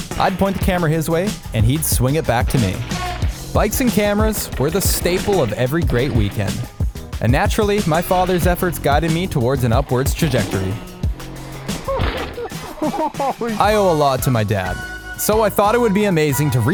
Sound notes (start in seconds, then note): 11.9 laughing